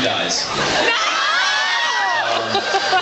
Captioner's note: laughs and screams